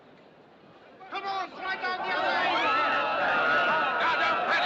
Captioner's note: Gritando, Clamando